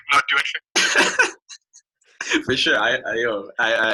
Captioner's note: laughing